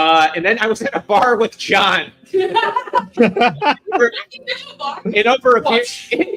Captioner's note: laughing